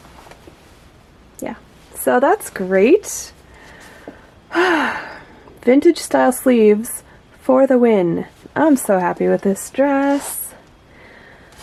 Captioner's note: happy sigh